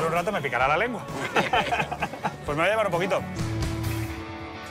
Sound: laugh

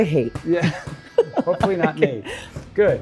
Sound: both laughing

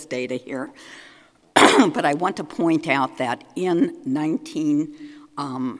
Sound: coughs

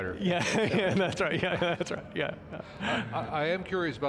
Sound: laughing

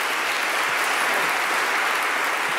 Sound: applause

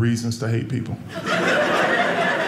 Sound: audience laughing

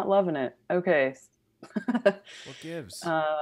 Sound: laughs

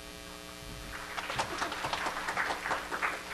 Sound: applause

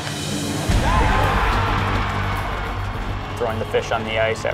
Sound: cheering

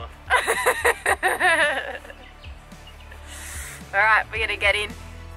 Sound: laughs

